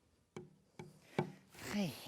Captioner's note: hand taps